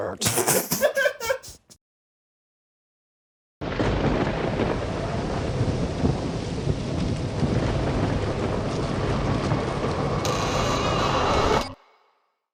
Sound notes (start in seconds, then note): 0.2 and crew laugh; 3.6 thunder rumbles; 4.5 wind roars; 10.1 door creaks